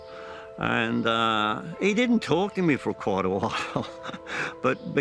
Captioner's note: laughs